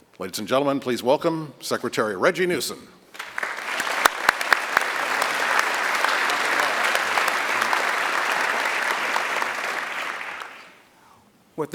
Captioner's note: applause